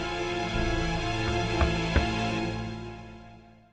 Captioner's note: knock knock